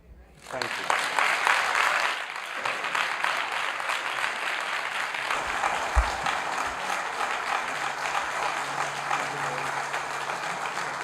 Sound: applause

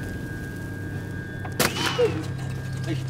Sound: bullet sounds

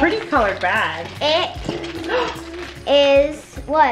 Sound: gasps

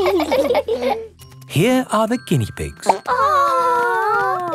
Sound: laughing; plop

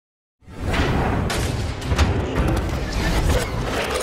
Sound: metal banging

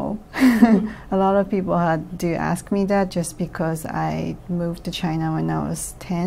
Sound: laughs

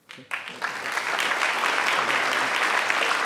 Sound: audience applauds

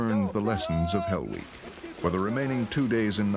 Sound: voiceover

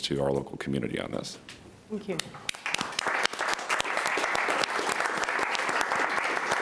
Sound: everybody applauding

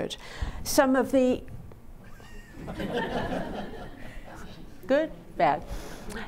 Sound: audience laughing

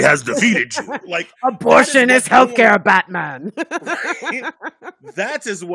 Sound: laughing

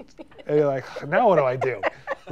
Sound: laughing

